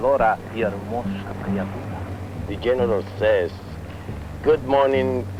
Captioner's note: speaking spanish